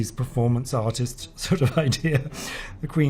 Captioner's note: laughs